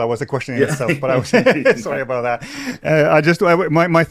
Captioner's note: chuckles